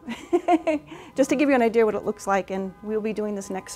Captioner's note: laughs